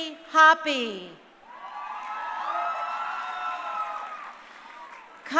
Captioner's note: crowd cheering